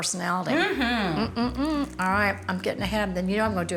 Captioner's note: fritter crunching